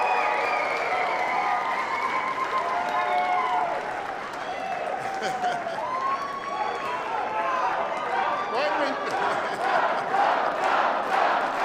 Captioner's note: applause